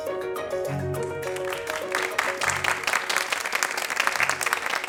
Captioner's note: audience clapping